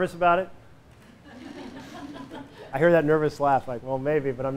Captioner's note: laughter